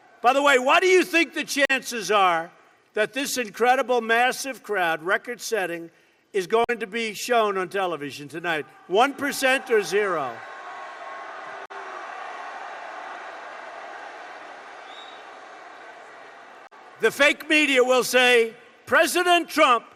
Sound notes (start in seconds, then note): 14.6 applause